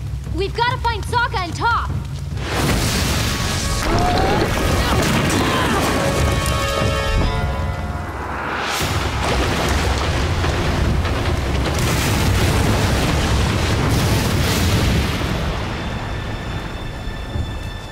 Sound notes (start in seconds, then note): 2.2 crumbling; 3.8 Aang exclaims; 4.9 smash; 9.1 splash